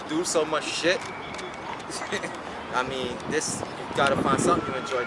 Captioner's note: laughs